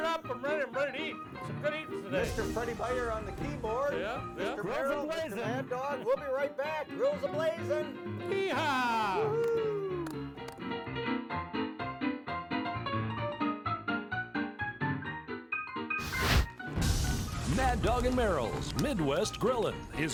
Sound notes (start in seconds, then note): 9.4 upbeat piano; 16.0 flames crackling